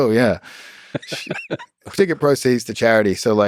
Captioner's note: Lex laughs